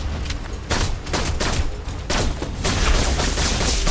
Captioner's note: gun firing